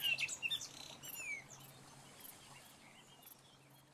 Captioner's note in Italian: Suoni della natura